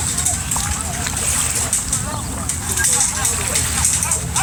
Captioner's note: the flag clinks in the distance